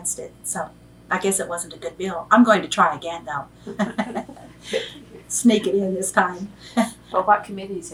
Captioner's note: laughs